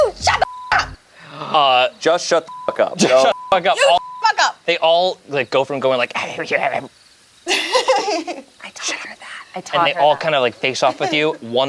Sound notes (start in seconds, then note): 2.4 beeps; 6.7 grumbling; 7.4 laughs